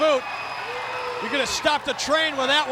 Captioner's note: audience cheers